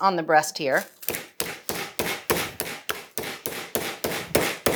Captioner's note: meat pounder banging